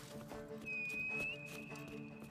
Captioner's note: whistle